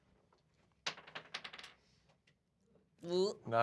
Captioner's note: dice rolls